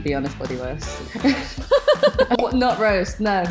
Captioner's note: both laugh